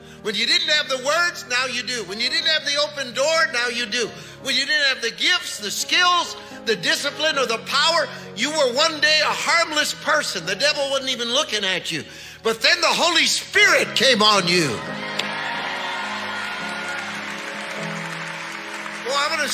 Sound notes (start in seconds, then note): 14.2 congregation cheering; 16.9 gentle piano music